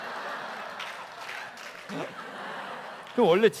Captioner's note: laugh